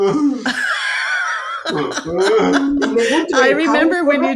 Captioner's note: laughing